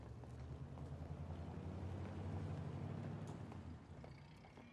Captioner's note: car departing